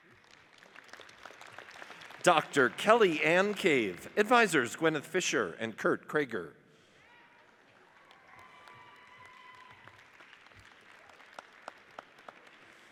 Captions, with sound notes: (audience applauds) Dr. Kelly Ann Cave, advisers Gwenyth Fischer and Kurt Craiger. (audience cheers and applauds)